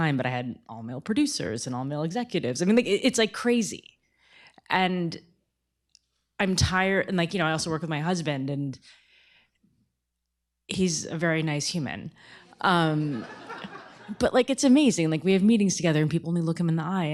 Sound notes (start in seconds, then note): 13.0 laughter